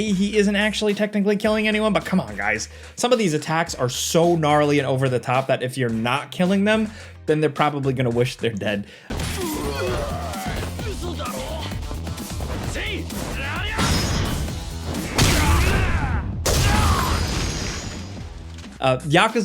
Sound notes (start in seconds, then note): 9.1 robust music; 9.1 characters grunting; 10.6 characters speaking in foreign language; 13.8 poster stand slams; 14.8 attacks hitting; 15.0 character grunts